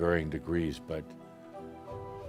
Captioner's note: none